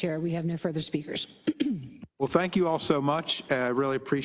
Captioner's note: cough